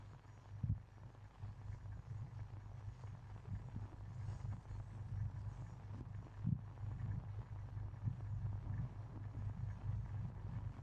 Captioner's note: wind